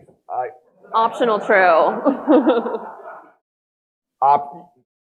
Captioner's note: audience laughing